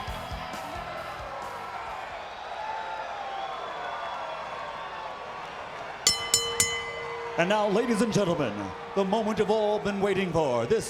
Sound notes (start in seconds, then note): 0.1 crowd cheering; 6.0 bell chiming